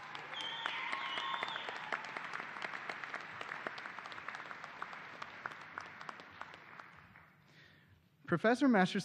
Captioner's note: cheers and applause